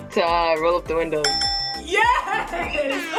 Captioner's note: bell chimes